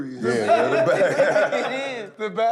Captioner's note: laughter